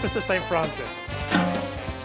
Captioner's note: blows whistle